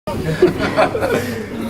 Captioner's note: laughing